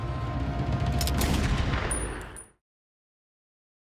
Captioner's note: gun firing